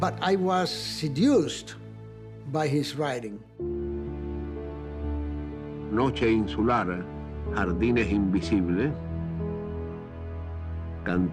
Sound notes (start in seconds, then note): 5.4 speaking Spanish